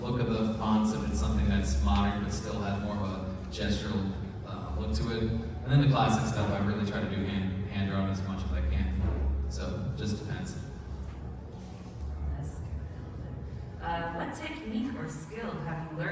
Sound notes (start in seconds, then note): 12.4 quietly; 14.2 normal voice